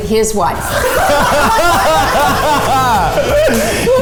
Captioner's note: laughing